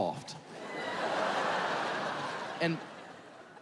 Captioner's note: audience laughing